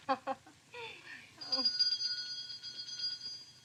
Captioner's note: chuckles; doorbell rings